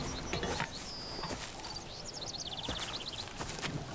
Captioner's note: birds chirping